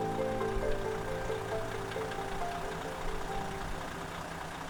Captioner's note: engine roaring